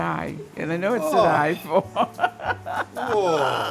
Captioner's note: laughs